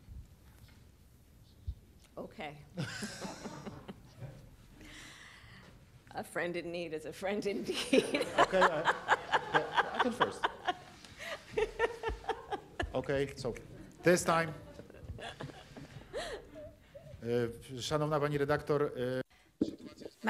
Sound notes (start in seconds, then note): 2.8 laughs; 7.7 laughter